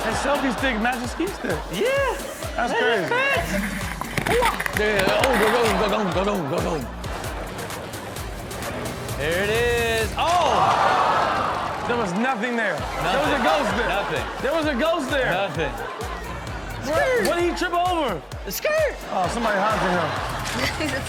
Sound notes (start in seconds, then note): 7.1 upbeat music continues; 10.7 audience gasps